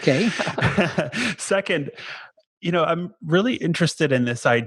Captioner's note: chuckles